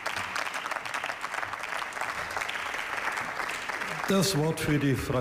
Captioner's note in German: Beifall